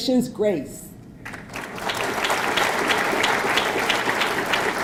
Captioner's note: audience clapping